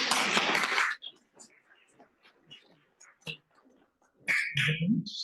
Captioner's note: applause